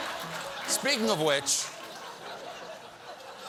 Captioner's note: piano riff; laughter